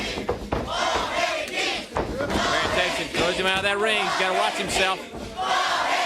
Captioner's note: crowd chanting